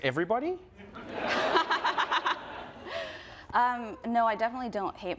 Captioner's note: group laughing